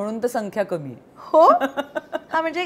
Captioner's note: Chuckles